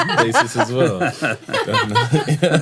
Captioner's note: laughter